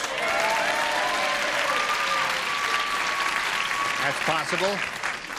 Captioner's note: applause, cheering